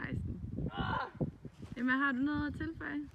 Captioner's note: raaurgh